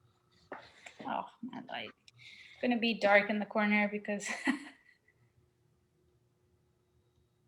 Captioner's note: laughs